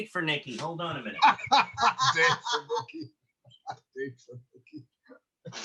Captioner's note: laughter